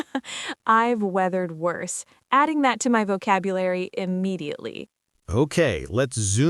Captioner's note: laughs